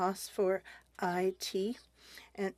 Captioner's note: speaking French